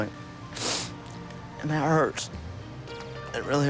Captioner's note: sniffs